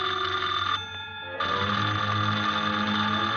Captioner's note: phone ringing